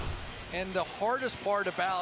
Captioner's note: swoosh